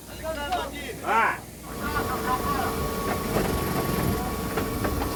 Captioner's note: machine whirs